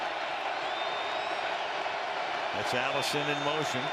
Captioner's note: cheering